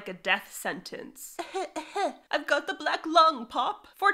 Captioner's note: fake feeble coughing